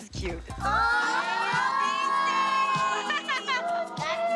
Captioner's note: all exclaim; whooping